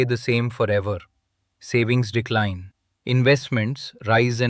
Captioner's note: thoughtful